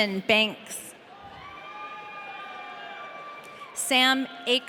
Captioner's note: audience cheering